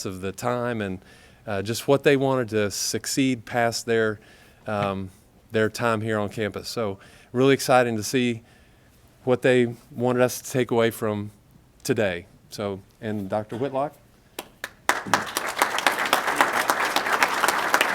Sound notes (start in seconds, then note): 14.3 applause